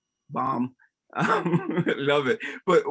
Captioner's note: laughs